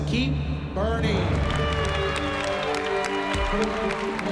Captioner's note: cheering and applause